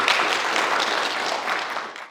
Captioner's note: applause